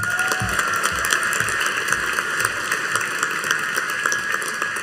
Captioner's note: audience cheering and applauding